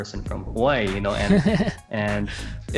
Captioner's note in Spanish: Risas